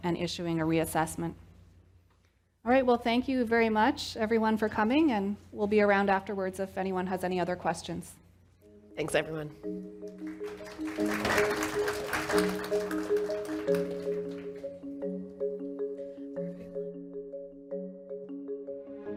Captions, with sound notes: and issuing a reassessment. All right, well thank you very much everyone for coming. And we'll be around afterwards if anyone has any other questions. - Thanks, everyone. (soft music) (audience applauds)